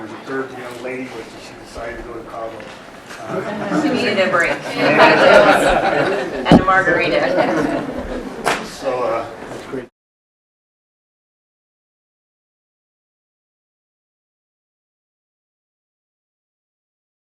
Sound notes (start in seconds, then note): 4.9 laughter